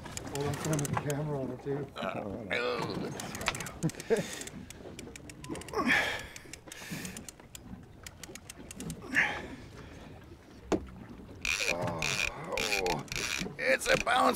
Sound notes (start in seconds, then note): 0.2 reel spinning; 5.3 straining